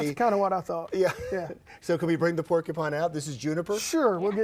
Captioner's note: laughs